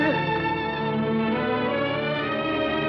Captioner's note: crying